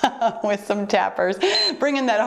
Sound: timer beeps

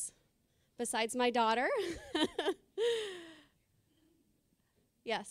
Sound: laughing

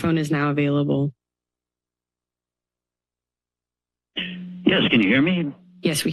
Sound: silence

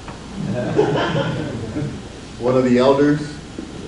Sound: audience laughs

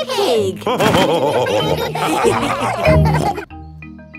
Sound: all laughing

